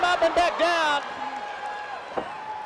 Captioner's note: crowd chatter